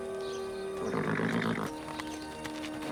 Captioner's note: horse whinnies